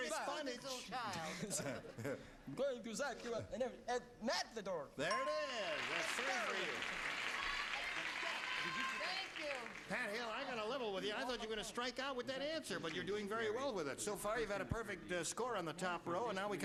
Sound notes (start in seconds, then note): 7.8 applause